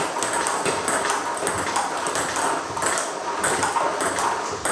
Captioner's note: ball ping pong hitting continues